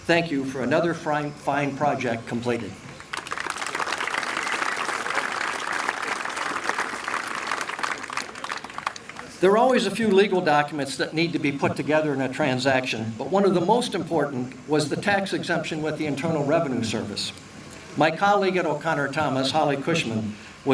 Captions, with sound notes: thank you for another fine project completed. (applause) There are always a few legal documents that need to be put together in a transaction, but one of the most important was the tax exemption with the internal revenue service. My colleague at O'Connor Thomas Holly Cushman